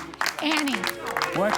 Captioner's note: applause